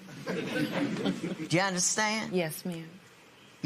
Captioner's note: chuckles